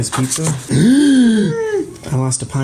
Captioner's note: gasps; gasps loudly